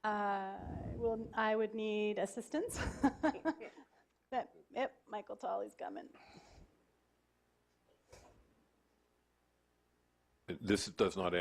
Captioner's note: laughing